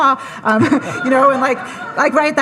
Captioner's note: audience laughing